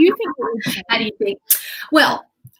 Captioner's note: laughs